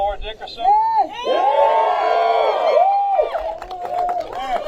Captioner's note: applause